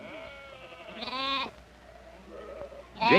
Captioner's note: sheep bleating